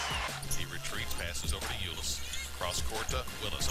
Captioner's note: cheering